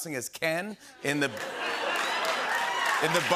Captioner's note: cheering and applause